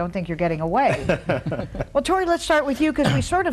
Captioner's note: laughs